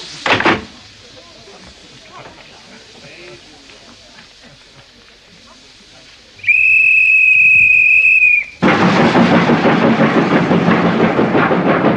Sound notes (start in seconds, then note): 6.4 whistle blows